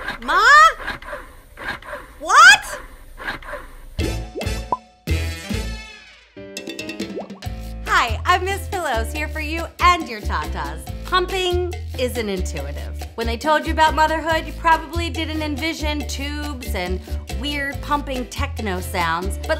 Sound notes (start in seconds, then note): 4.0 upbeat music; 5.4 bubbles popping